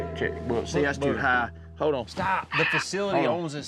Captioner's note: says into microphone